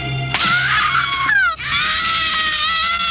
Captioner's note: screaming